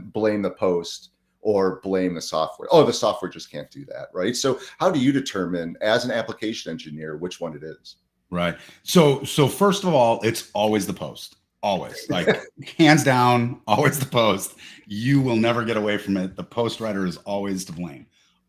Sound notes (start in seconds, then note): 11.9 laughs